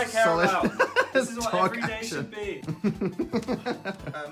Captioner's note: laughs